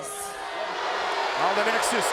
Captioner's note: crowd booing